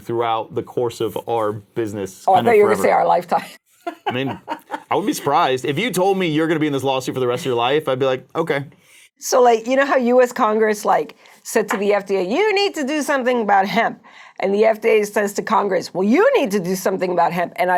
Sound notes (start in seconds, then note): 3.8 laughing